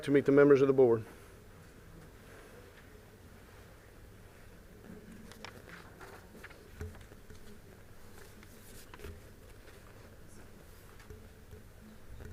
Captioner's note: group noise